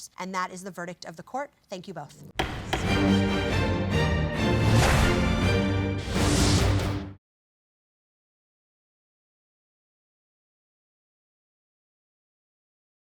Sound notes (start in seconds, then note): 2.4 gavel bangs; 2.4 dramatic music